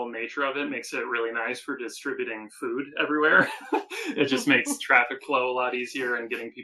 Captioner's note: laughing